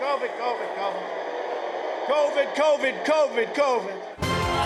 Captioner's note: crowd boos